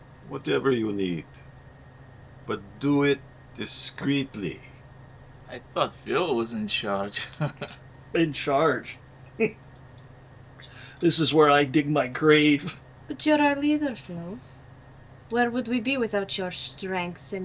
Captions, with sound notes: Whatever you need. But do it discreetly. - I thought Phil was in charge. [laughing] - In charge? [scoffs] This is where I dig my grave. [laughing] - But you're our leader, Phil. Where would we be without your strength